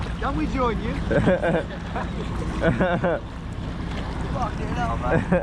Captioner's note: laughing